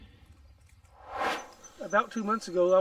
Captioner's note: air swooshes